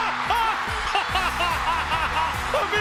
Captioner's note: laugh